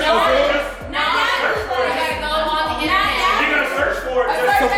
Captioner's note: guests chatter